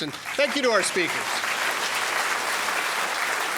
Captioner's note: applause